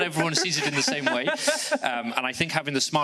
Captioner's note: laughs